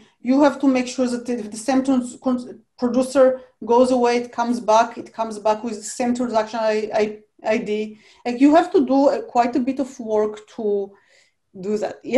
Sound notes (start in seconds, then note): none